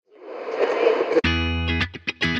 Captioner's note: radio dial whooshing; bright music